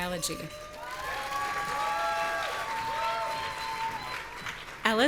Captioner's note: audience cheering